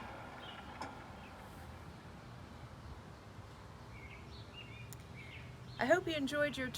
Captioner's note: the sounds fade away and are replaced by brief birdsong